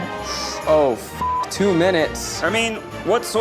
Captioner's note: beep